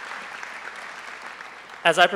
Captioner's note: applause